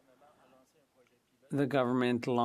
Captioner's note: speaking French